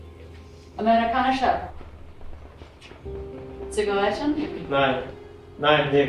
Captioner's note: speaking in German